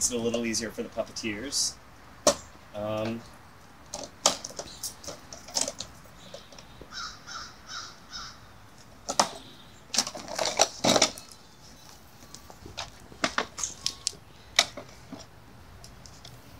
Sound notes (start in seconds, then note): 3.9 chair rattles with movement